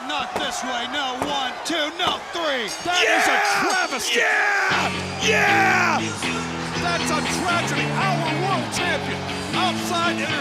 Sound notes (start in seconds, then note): 3.4 bell ringing